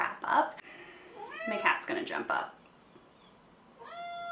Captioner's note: meow in background; more meowing in background